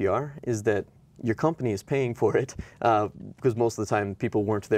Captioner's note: chuckles